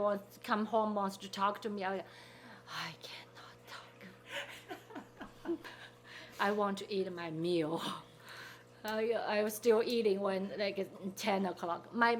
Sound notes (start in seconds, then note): 4.3 people laughing